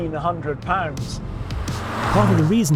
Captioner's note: car roaring